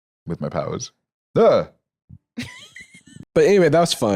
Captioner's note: laughs